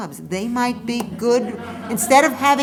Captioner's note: laughter